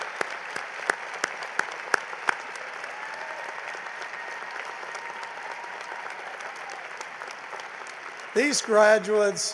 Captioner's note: cheering and applause